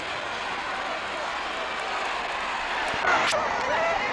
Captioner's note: crowd chattering